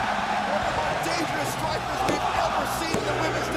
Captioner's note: crowd cheering